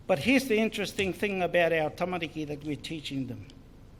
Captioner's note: foreign Language